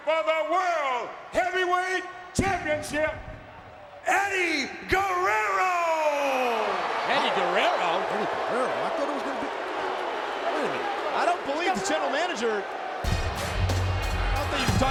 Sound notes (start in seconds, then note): 10.1 crowd booing; 13.0 upbeat music